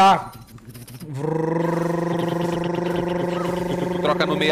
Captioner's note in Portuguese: Som de drone